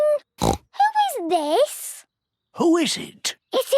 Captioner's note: snorts